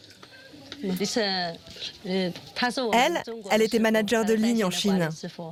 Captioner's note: speaking foreign language